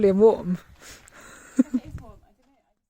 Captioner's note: chuckles